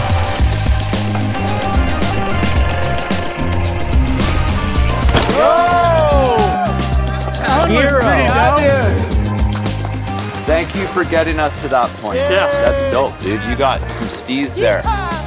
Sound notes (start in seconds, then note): 0.2 upbeat groove music; 5.2 cheers